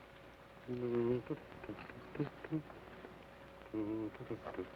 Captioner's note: hums melodically